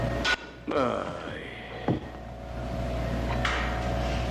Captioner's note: Clell Groans